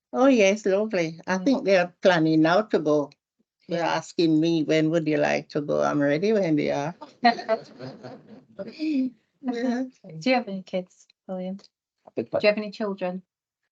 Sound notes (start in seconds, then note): 7.4 audience and panel laughter